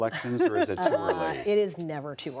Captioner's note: laughter